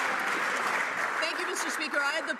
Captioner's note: some Applause